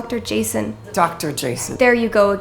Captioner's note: scoffing